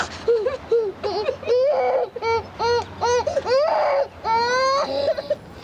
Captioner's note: cries bitterly